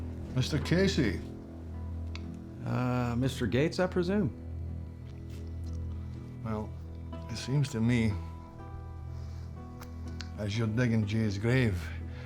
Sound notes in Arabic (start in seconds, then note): 0.1 لهجة اسكتلندية; 6.1 لهجة اسكتلندية